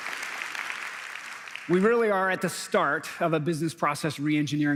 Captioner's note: applause